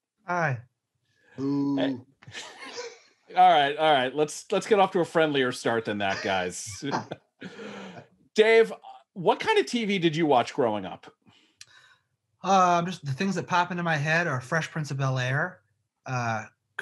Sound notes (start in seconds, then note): 2.2 men laughing; 6.0 man laughing